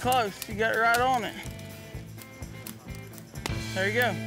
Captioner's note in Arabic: فرقعة النار